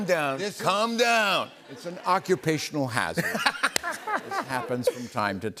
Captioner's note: laughter